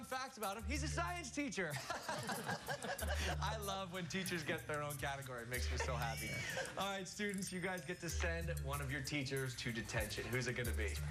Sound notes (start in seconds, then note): 1.7 laughter